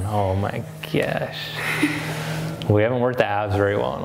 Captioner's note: laughs